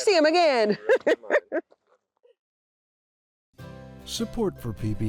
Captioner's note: laughing